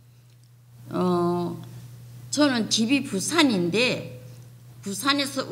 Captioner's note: speaking foreign language